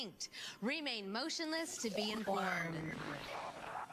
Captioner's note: Static